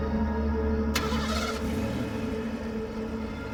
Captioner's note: engine starts